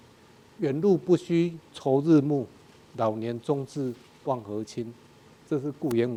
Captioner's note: speaking in a foreign language